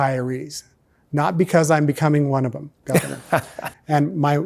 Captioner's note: laughs